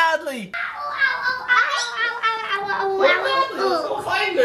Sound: making funny noises

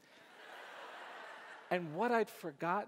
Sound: audience laughs

